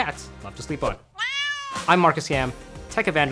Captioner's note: cat meowing; upbeat music